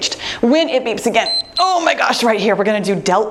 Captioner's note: timer beeps